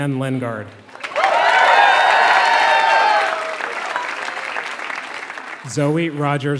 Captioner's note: applause